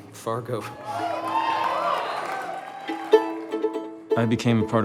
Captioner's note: cheers